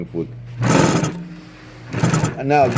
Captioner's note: rattling